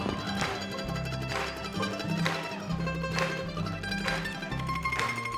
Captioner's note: mandolin solo; crowd clapping along